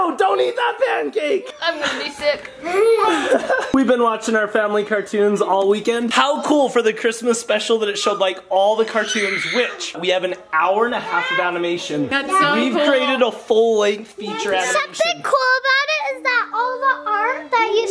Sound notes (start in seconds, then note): 1.6 people laughing; 9.0 child screaming